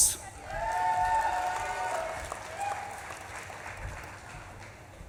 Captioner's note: audience claps and cheers